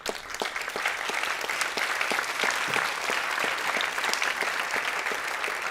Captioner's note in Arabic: تصفيق